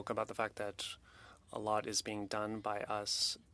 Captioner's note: speaking French